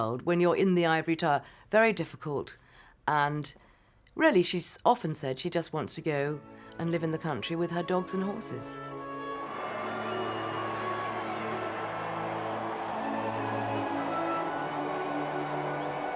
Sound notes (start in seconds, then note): 8.8 crowds cheering; 12.6 soft, nostalgic music